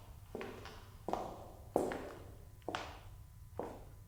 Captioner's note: footsteps